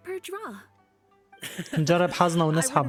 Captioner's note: laughs